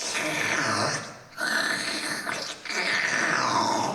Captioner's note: loud slurping